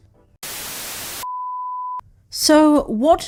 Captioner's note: static